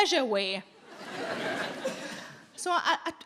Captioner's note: audience laughing